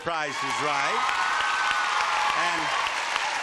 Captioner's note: audience applauding